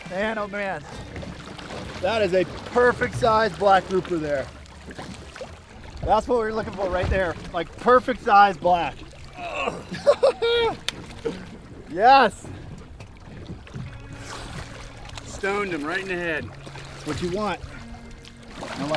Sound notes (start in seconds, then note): 9.4 grunting; 9.4 laughing